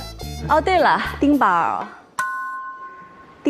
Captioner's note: ding